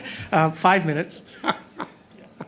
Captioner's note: laughter